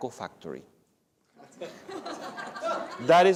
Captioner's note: laughter